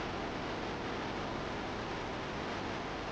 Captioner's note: none